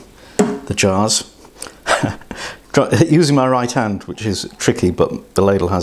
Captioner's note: laughs